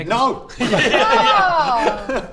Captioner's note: disappointed laughter